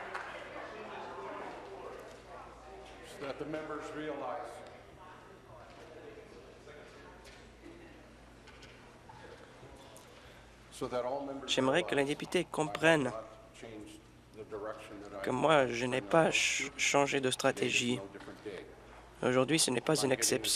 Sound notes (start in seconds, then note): 0.0 applause; 4.3 conversation din